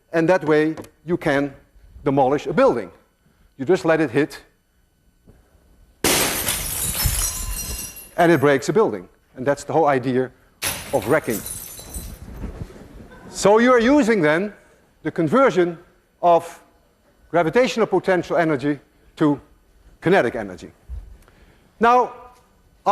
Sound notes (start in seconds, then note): 6.0 glass shattering; 13.0 laughter